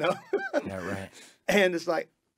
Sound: giggles

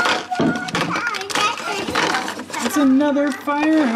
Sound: carton rambling

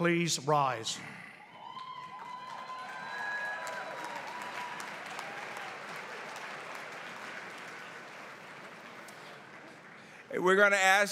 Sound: applause

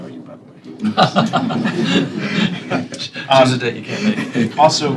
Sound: laughter

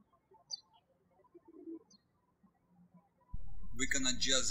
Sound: birds chirping

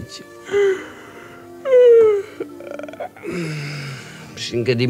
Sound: yawn

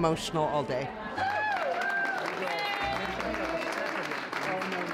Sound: crowd claps and cheers

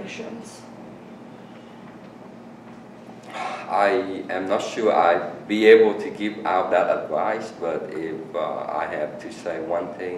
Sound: sighs

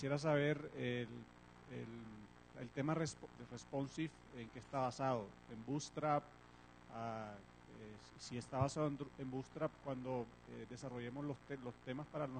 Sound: Spanish

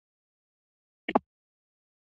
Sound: static

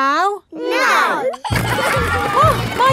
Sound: giggling

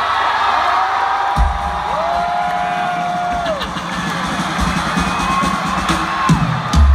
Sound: crowd cheering as walks on stage

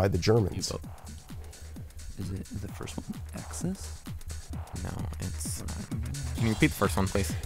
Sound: wispering

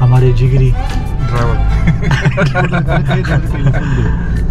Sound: laugh

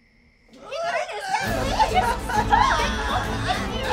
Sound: struggling and fighting

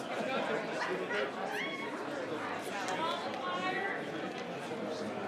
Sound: audience murmuring

